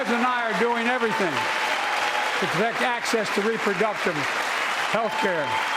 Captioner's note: applause